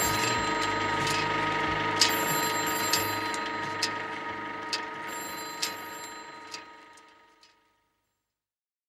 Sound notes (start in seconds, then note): 0.0 music fades; 0.0 telephone ringing; 1.9 projector clicking; 1.9 telephone ringing